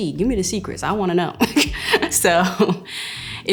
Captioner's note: chuckles